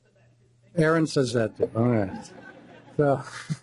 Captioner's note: chuckling